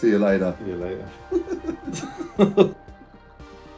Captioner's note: both laughing; soft upbeat music